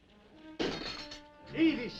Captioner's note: glass breaking